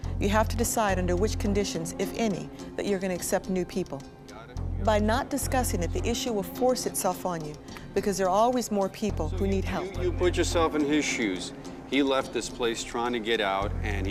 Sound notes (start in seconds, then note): none